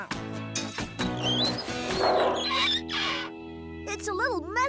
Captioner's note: engines Running